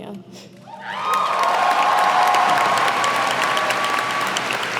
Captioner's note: cheers and applause